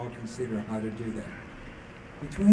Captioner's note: none